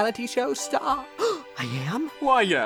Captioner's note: gasps